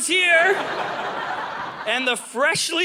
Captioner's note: audience laughing